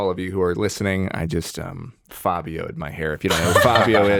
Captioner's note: chuckles